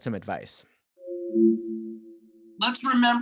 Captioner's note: device chiming